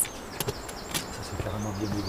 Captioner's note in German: Vogelzwitschern